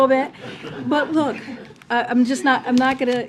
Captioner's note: laughter